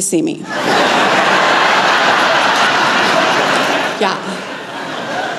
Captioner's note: laughter